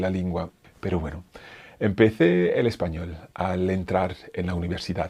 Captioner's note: speaks in foreign language